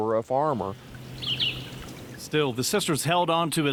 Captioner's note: birds chirping; water trickling